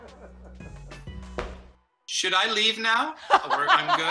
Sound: laughter; foot stomps; laughter

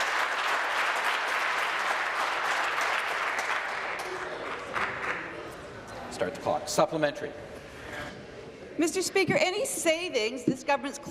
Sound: applause

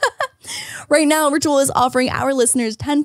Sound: laughing

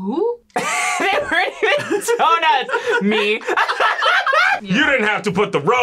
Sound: laughs; both laugh

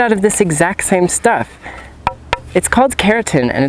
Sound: bonk Sounds

